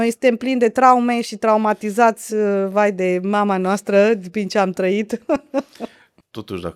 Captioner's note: laughter